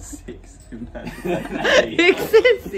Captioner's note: laughing